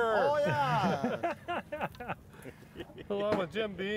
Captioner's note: laughing